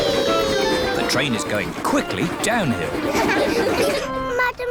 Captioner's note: laughter